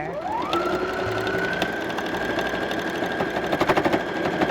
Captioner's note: sewing machine whirring